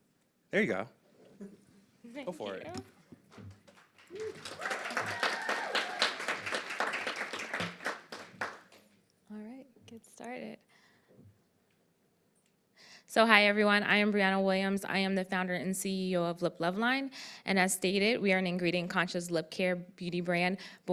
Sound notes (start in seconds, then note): 3.7 applause and crowd whistles